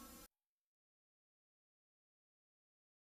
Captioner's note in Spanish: silencio